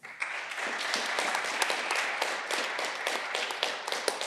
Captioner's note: audience clapping